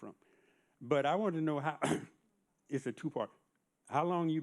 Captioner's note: clears throat